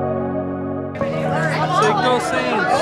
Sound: gentle music; crowd chattering

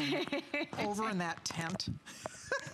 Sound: laughter

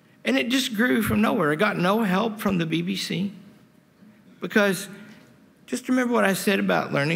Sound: none

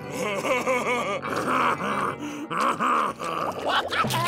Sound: laughing

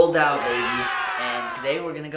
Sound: applause

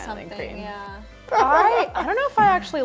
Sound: laughs

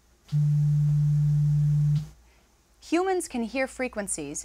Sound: low-pitched tone

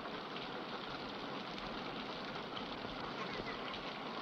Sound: rain patters

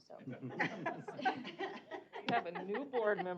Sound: laughter

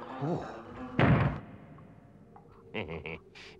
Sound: door slams; Henchman Weasel laughs

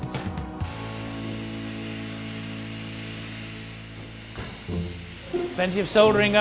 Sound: loud machine noises; upbeat music

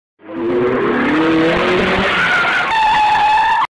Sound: car screeching to a stop

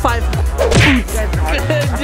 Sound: fake high five sound effect

